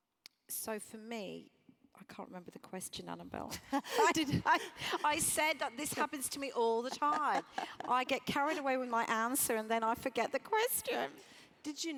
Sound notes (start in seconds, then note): 3.8 laugh